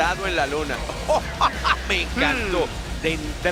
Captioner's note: laugh